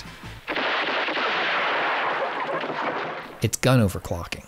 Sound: fast gunshots

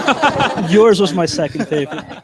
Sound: all laugh

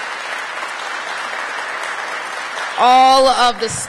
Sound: applause

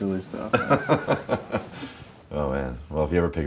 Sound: laughing

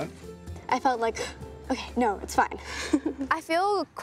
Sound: gasps

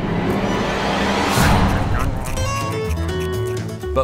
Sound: beaver chewing

